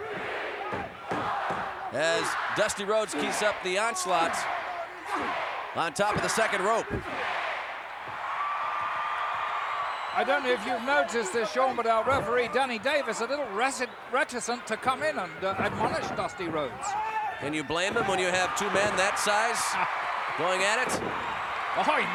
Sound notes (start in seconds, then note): 8.3 audience cheering